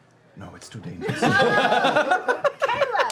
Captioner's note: laughter